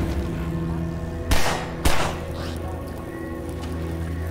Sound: gunshots

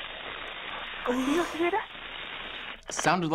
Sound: shudders

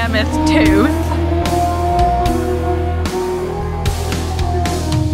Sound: animal sound

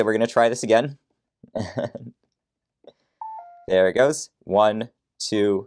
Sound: chuckles

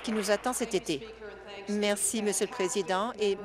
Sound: applause

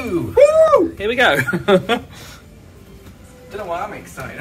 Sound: laughs

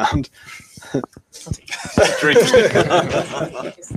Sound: laughter

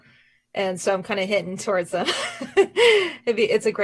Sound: laughing

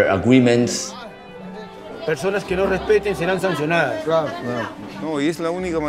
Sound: men speaking foreign language

